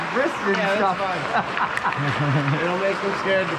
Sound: laughter

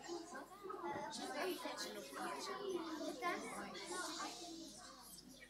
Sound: kids chattering

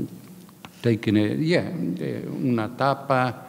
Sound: speaking in a foreign language

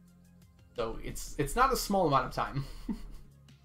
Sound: chuckles

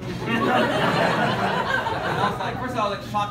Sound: laughter

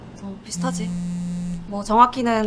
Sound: phone vibrates

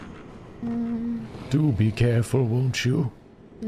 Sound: old man voice

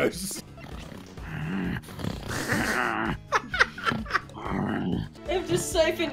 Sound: dog snarling

